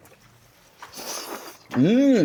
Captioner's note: slurping